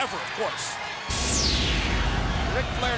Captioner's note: crowd cheering; logo whooshing